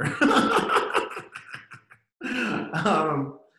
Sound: laughter

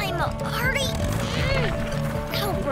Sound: groaning

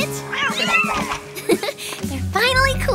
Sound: all meowing; giggles

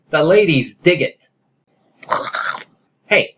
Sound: gags

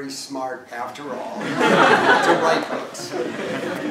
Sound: laugh

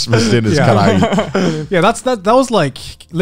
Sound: laughing

